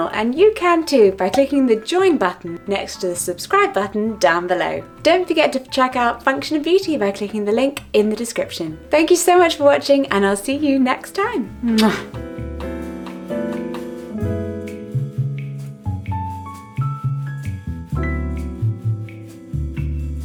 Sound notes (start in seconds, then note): 11.6 smooches; 13.3 jazz music continues